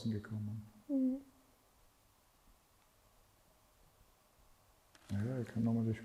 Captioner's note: silence